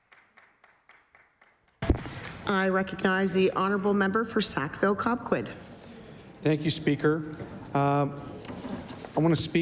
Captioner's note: applause